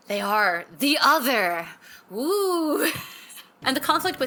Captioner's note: laughing